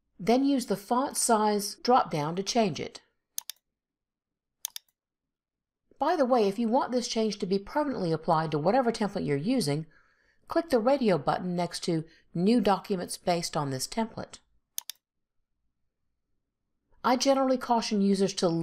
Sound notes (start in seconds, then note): 4.6 mouse clicks; 14.8 mouse clicks